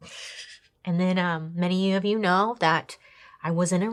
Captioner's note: chuckles